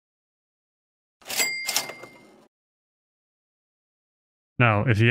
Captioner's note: cash register sound effect